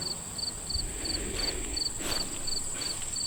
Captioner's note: emilie sighs